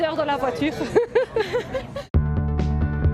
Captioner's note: laughs; light music